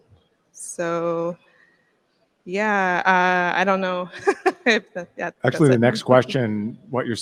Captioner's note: laugh